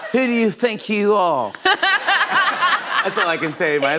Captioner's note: laughter; normal voice